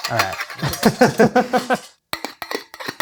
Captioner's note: laughter